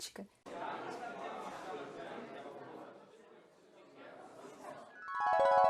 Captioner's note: noise of people talking